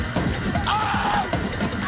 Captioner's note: screaming